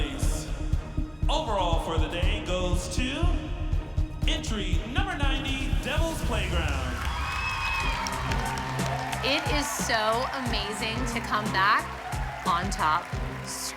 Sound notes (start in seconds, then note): 6.0 applause and cheering